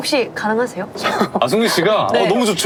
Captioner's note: haha